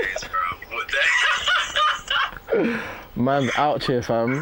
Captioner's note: laughs